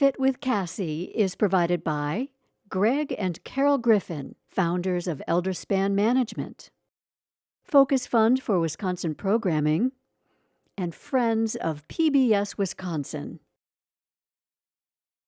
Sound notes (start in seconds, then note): 7.7 inhales; 9.6 exhales